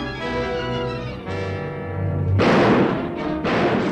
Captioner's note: gunshots